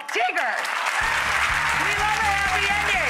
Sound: audience applause

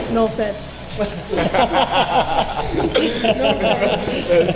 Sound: laughter

